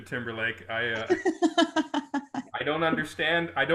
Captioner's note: group laughing